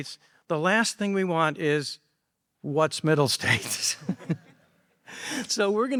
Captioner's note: laughs